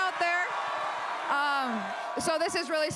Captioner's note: crowd cheers